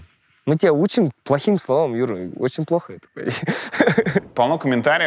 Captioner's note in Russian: смеется